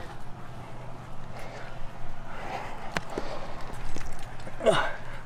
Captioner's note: intense Nonstop Breathing